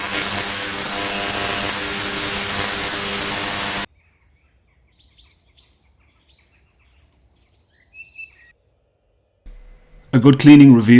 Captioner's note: horrible buzzing sound